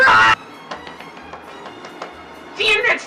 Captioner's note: keyboard tapping